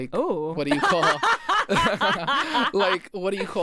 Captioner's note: laughs